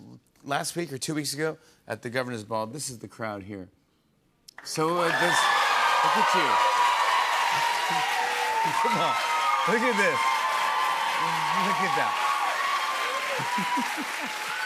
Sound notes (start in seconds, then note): 4.3 cheers and applause; 13.4 chuckles